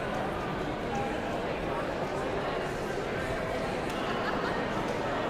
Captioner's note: audience chattering continues